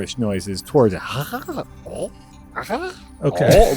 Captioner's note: loving gibberish noises